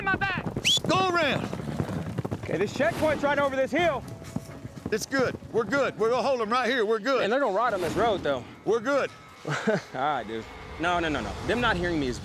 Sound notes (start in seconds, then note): 0.6 whistling